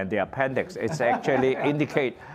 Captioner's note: laughter